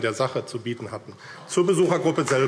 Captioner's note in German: Beifall AfD